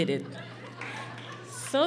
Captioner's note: laughing